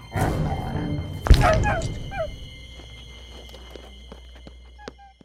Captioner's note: dog growling; dog yelping; wrench stabbing; dog whining; suspenseful music